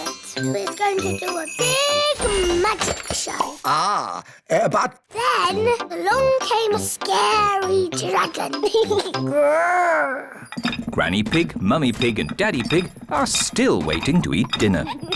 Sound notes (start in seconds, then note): 8.6 giggles, growls